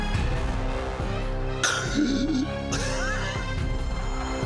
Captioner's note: exclaims and laughs